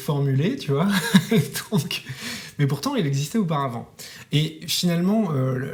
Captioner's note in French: Rire